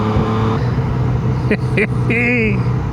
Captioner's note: laughs